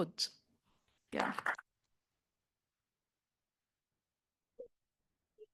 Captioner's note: group clapping